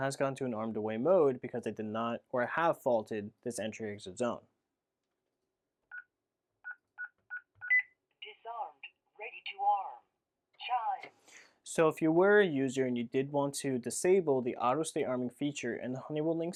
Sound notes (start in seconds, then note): 7.2 beeping